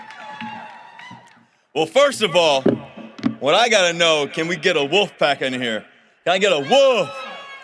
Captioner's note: cheering and applause